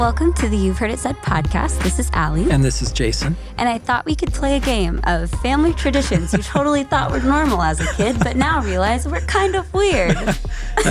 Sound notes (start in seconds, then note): 6.1 laughing